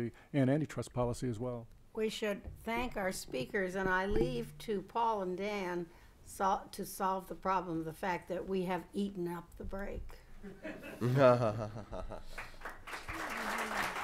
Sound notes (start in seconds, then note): 10.4 laughter